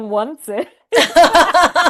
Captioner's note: laughing